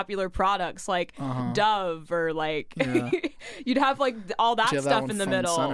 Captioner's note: laughs